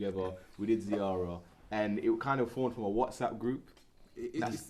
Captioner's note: non-english